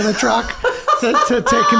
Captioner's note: Rob laughs